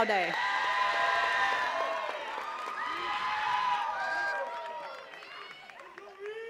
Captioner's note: attendees cheering and clapping